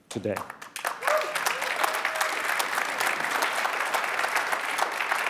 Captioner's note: applause